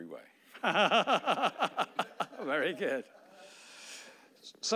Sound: laughing

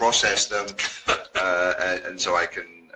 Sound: chuckles

